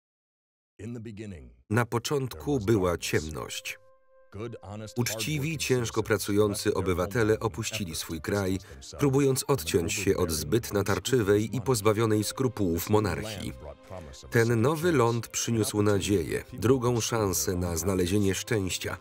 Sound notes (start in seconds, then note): 0.9 voiceover